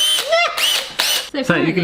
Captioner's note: squeal